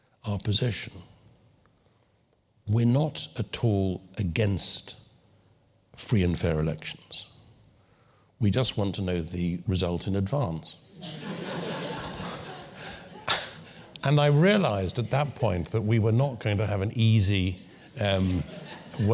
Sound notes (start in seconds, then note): 11.0 laugh